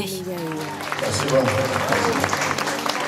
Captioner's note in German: Song endet, Jubel, Applaus